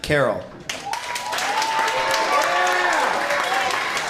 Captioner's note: cheers and applause